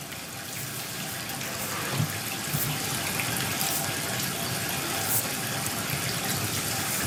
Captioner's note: water trickling continues